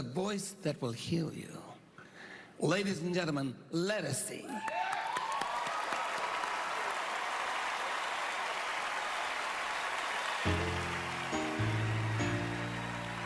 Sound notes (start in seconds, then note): 7.3 cheering, applause; 10.4 piano playing